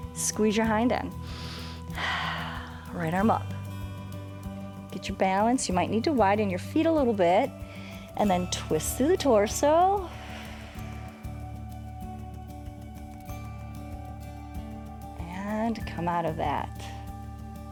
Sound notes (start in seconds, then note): 1.2 inhales and exhales; 10.0 exhales